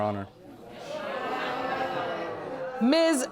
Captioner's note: audience exclaiming